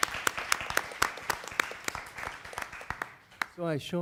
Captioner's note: applause